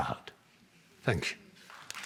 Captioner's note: applause